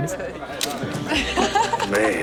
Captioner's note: laughing